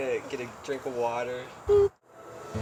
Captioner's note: boop